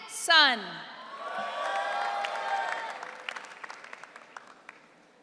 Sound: audience cheering

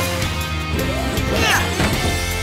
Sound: grunting

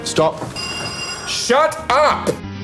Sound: phone rings

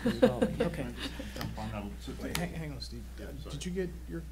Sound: laughing

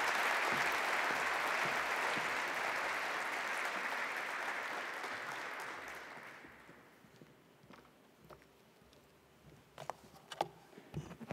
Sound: applause

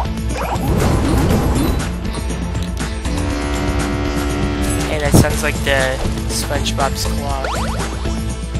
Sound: horn

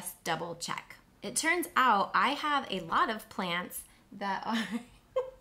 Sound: chuckles

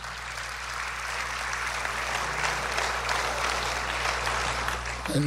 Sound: applause

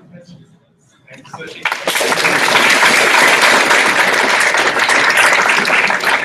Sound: applause

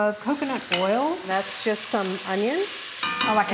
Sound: sizzling onions

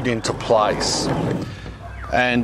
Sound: sifter scraping

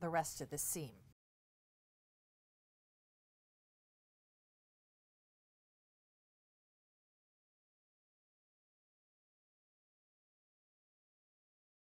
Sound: no Sound Present

